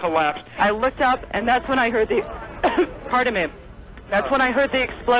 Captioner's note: cough